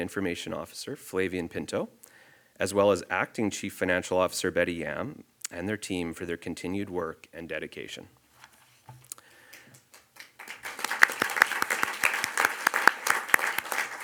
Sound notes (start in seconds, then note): 9.6 audience applauds